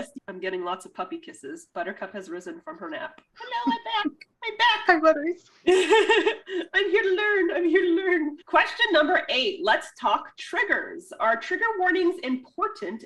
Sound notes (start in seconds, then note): 5.7 laughs